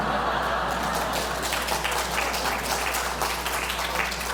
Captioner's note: applause